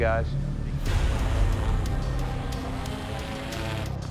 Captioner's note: buzzing